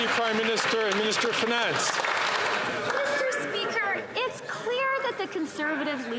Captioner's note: some Applause